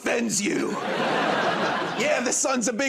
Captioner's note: laughter